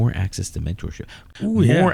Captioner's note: uh